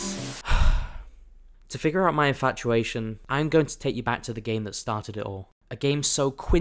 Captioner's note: sigh